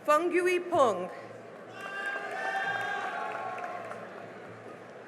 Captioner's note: cheering and applause